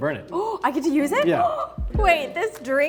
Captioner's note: Arden gasps